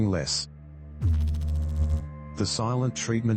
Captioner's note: electrical noise